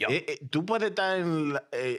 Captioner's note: speaking In Foreign Language